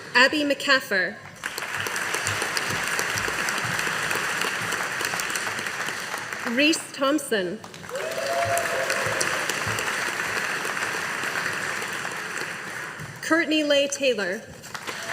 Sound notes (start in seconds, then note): 1.3 audience applauding; 14.7 audience applauding